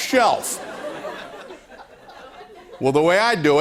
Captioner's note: laughter